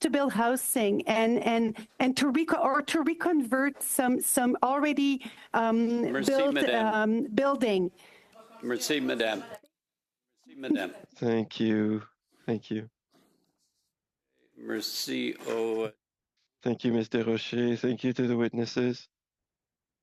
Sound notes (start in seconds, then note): 16.2 speaking French